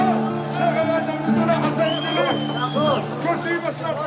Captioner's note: Arabic spoken audio